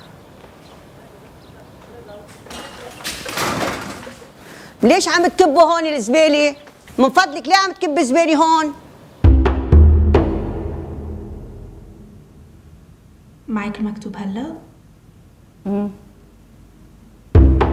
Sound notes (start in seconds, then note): 2.3 metal crashing; 4.9 speaking in foreign language; 9.2 light intriguing music; 13.7 speaking in foreign language; 17.3 light intriguing music